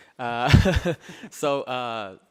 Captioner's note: laughing